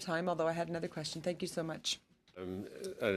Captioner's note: speaking French